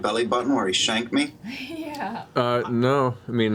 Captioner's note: laughs